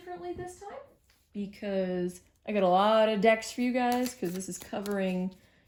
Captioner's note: shuffling tarot